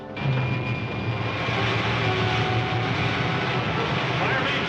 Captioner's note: roaring